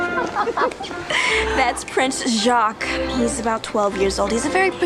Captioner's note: laughs